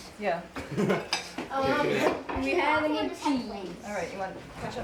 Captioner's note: chatter